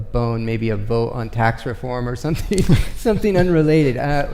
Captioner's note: chuckles